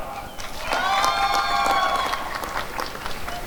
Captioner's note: applause and cheering